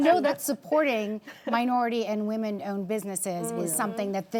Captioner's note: panelists chuckling